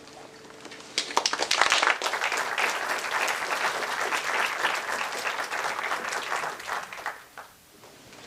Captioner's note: applause